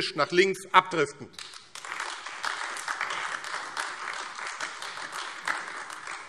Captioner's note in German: Beifall AfD